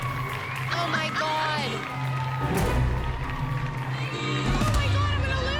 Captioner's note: laughs